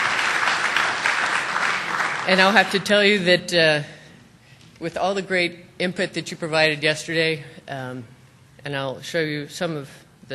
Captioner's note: applause